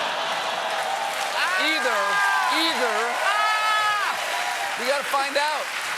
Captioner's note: cheers and applause